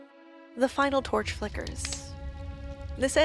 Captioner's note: torch crackles